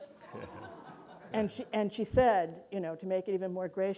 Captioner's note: audience laughing